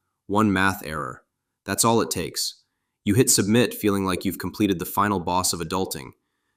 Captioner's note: nervous